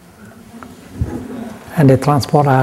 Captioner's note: laughter